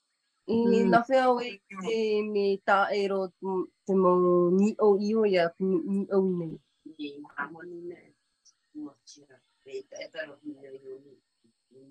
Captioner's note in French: et sa mère parlent paumotu